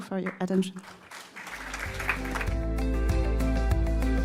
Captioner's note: clapping